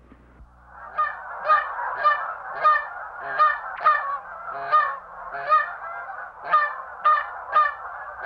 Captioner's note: goose call sound